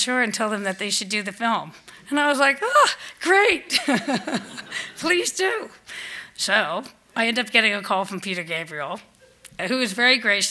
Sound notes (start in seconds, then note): 3.7 laughs; 5.3 laughter